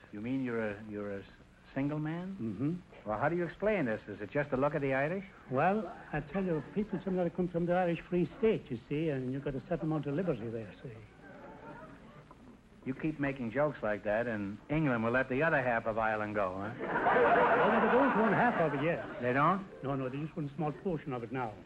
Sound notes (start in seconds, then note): 16.7 audience laughter